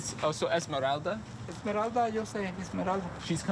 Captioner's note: speaking in Spanish